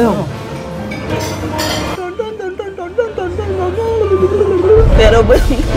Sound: mimicking sounds

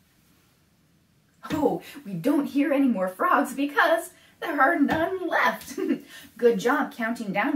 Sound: laughs

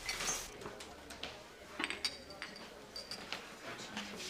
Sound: people chatter

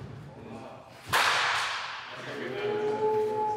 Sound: bat cracking

